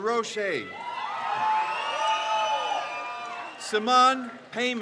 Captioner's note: crowd cheers